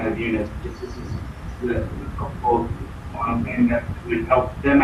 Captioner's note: man murmuring